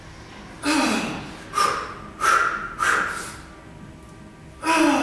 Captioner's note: increasingly effort & breathing sounds